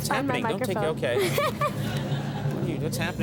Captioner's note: all laugh